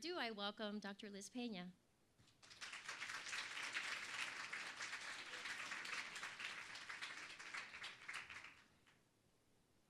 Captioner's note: applause